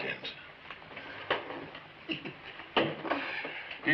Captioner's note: Turk chuckles